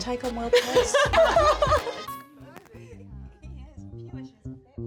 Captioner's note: Anamika laughs